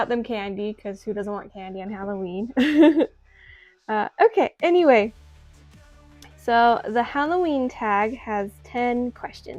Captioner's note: chuckles